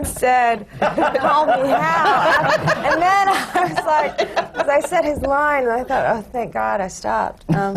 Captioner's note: laughter